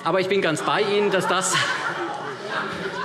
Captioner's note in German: Heiterkeit